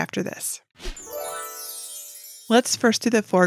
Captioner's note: twinkling chime